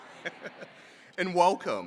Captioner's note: chuckles